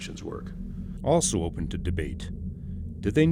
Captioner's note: voiceover